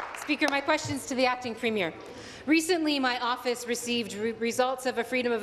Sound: applause

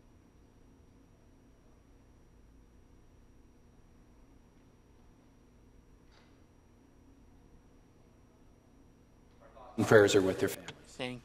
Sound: moment of silence

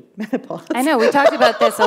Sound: laughter

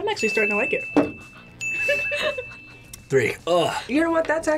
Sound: bell rings

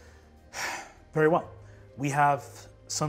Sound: sighs

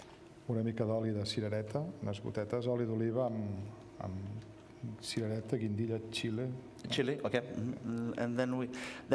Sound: speaking catalan

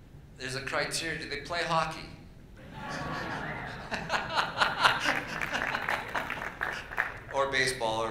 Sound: laughter and Applause

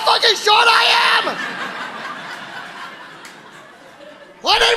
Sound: audience laughing

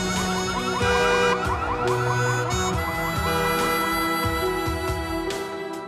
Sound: car alarm

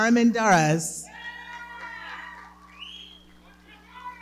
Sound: audience cheering and clapping

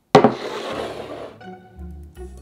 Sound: bowl sliding; quirky music playing in background throughout video

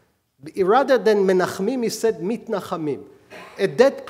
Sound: speaking hebrew

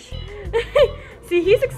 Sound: laughing

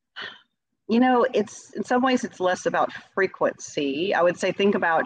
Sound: sighs

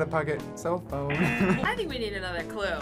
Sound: laughs; buzzer

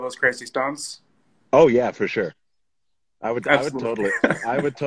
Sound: laughs

